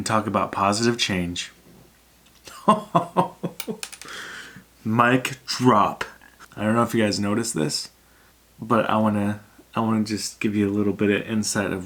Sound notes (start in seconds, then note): 2.4 laughs